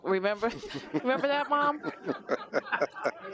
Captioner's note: laughter